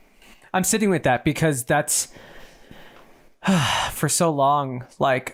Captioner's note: sighing